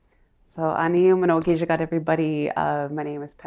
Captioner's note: speaking her language